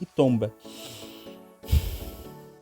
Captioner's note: deep breath